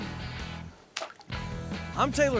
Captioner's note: splash